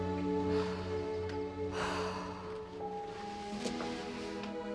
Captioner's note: sighing